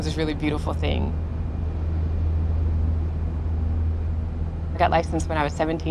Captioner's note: rumble of engine